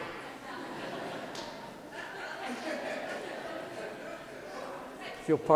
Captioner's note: laughter